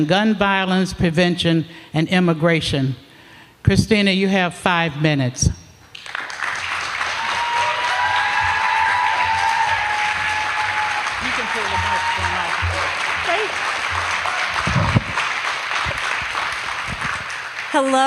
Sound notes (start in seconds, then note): 5.9 applause